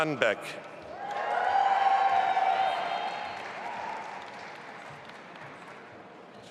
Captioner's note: audience applauding and cheering